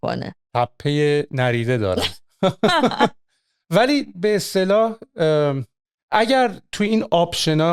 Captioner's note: laughter